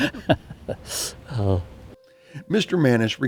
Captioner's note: laughs